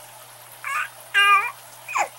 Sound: gasps

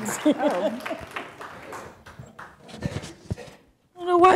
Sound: laughing

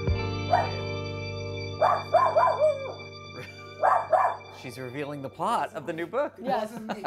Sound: Ruby barking

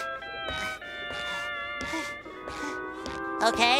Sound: panting

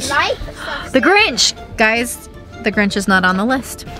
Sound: gasps

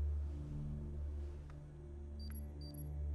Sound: beep beep

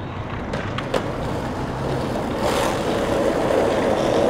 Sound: skates grinding

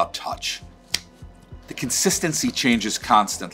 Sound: hands clap

